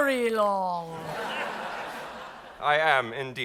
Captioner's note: audience applauding